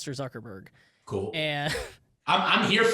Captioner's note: chuckles